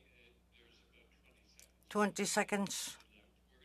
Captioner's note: speaking Indigenous Language